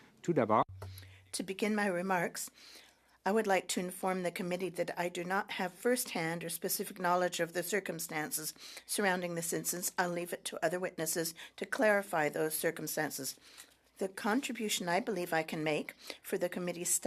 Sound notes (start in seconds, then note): 7.6 speaking French